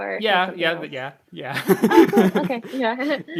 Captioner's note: laughs